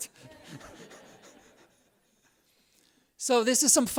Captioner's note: laughs